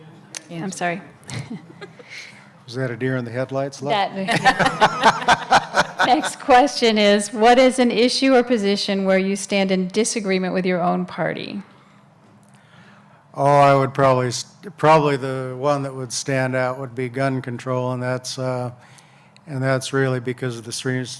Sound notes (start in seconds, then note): 4.2 laughter